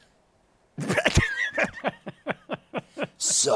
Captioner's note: laughs